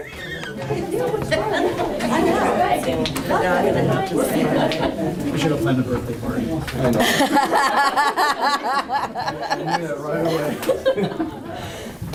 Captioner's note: audience chatter; laughter